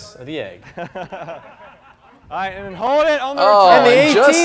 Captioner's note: players laughing